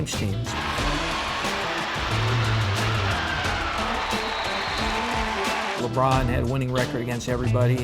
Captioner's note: crowd cheering